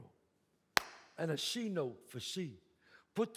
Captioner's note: claps